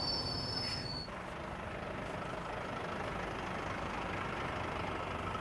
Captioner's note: truck engine roaring